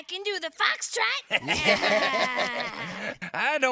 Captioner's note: laughs